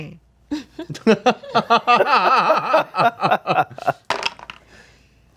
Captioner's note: group laughs; laughs sneakily; dice roll